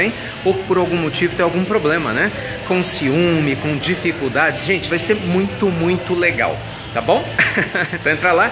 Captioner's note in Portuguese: risos